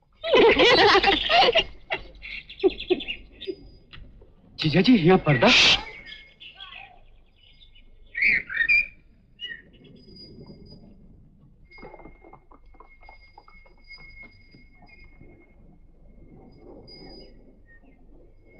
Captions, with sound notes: (Laughs) Brother-in-law, no purdah! - (Shushing)